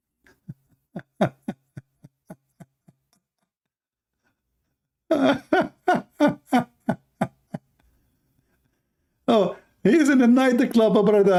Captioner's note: Ketawa